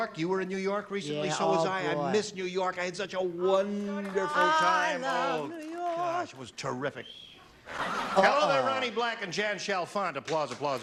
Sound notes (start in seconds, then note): 7.6 laughter